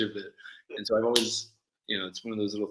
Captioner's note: loud clap